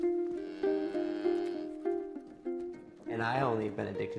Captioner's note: cow mooing